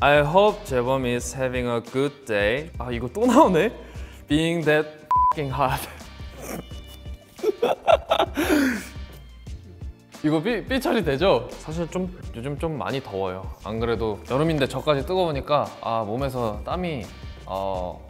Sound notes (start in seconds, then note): 2.8 speaks Korean; 5.1 beep; 10.4 speaks Korean